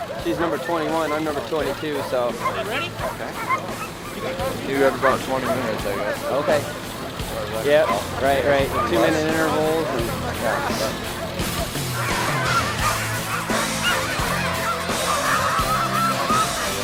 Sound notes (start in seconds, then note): 12.0 dogs barking; 13.5 bright upbeat music